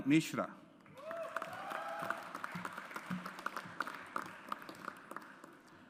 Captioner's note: audience applauds